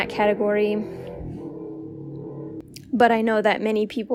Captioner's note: motorcycle zooming noises